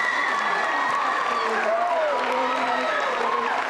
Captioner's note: cheers and applause